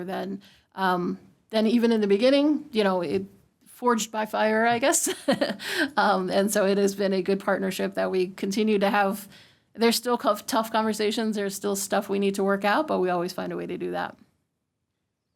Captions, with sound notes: than even in the beginning, it forged by fire, I guess [LAUGHTER], and so it has been a good partnership that we continue to have. There's still tough conversations. There's still stuff we need to work out, but we always find a way to do that.